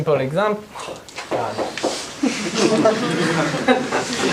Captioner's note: audience laughs